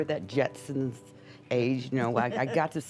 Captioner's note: light laughter